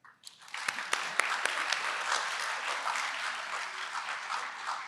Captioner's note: applause